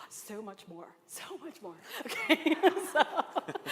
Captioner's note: laughter